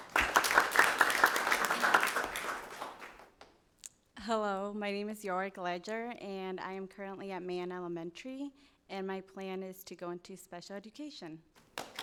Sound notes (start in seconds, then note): 0.0 audience applauding